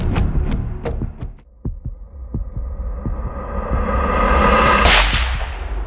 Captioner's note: heartbeat; shot